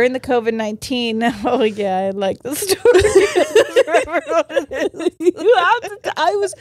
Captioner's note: all laughing